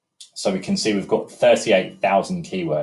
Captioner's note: mouse clicking